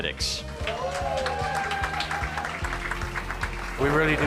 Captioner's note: audience applauds